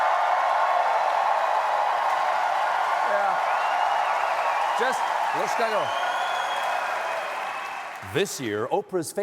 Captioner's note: cheering